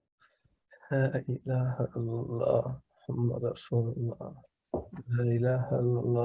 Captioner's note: speaking in foreign language